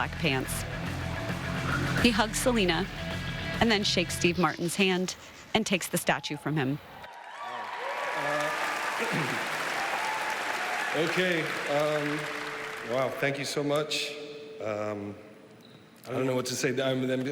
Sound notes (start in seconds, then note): 5.5 applause